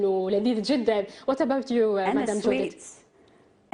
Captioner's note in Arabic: تتحدث الإنجليزية